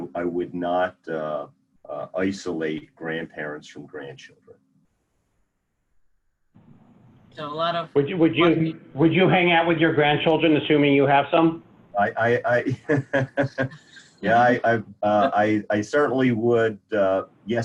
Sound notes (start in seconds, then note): 12.0 laughing